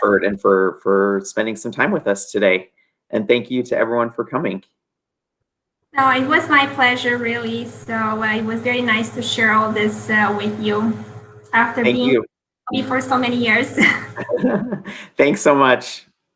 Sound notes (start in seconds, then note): 13.7 laughter